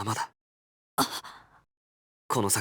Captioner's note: gasp